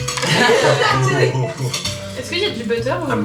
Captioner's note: laughs